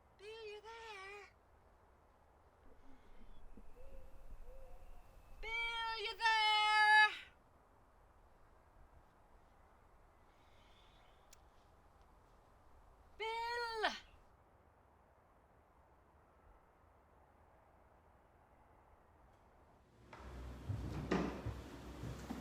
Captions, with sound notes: Bill! Bill! Are you there? Biill! Are you there? Biill! [whisper] Bill?